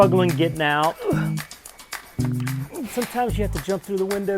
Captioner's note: grunting